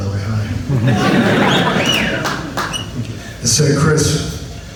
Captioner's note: audience laughs; audience whistles